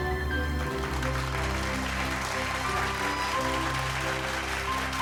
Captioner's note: audience applauding